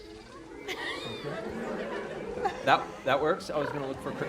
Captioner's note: cricket noises, laughter